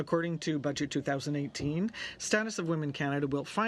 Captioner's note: speaking in french